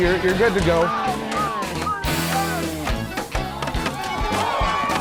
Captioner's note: drumming and cheering